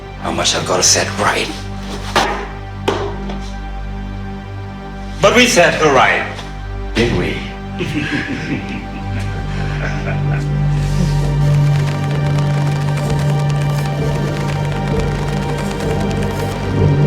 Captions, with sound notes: How much I've got to set right? But we set her right, didn't we? (laughs) (ominous synth music)